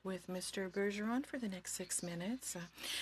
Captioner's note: speaking in French